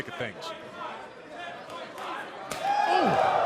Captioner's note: crowd cheering